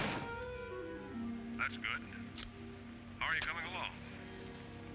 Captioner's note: door slams shut; on phone